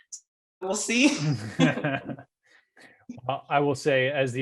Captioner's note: both laughing